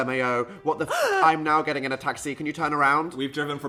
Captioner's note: gasp